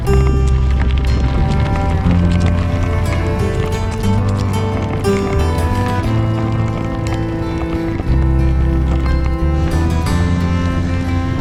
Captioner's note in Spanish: ruidos emocionados de bicicletas